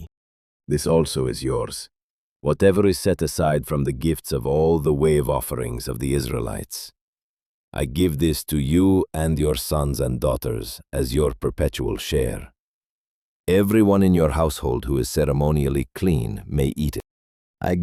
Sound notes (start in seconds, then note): 0.2 thoughtful; 6.9 speaking with authority